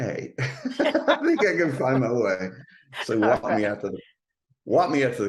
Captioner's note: laughs